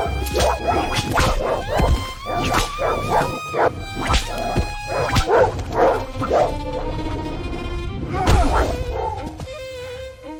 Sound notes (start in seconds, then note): 0.5 dramatic music; 4.8 whip cracks